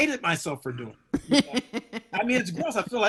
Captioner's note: woman laughing